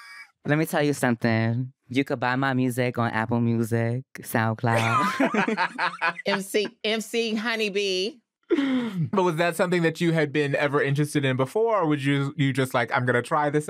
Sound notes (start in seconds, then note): 4.7 all laughing; 8.2 laughs